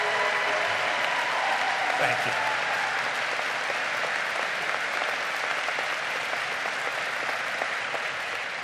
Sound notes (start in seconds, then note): 0.0 crowd applauding